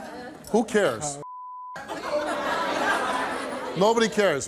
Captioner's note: audience laughs